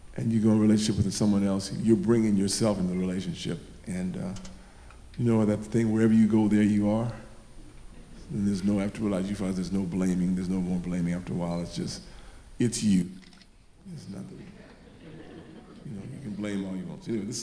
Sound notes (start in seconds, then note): 14.2 audience laughing